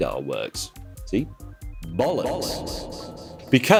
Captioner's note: echoey effect